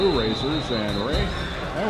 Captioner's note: crowd